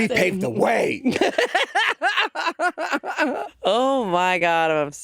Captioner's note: Jinkx laughing